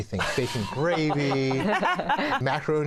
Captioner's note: laughter